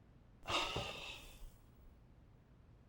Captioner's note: exhale